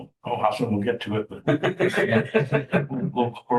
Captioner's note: laughter